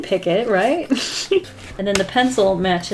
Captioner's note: laughs